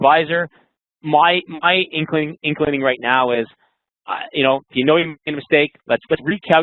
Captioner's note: voice muffled